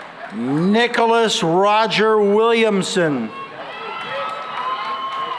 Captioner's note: cheering and applause